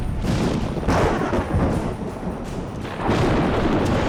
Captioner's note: thunder